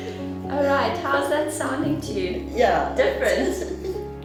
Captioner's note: laughter